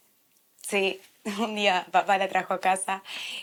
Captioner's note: laughing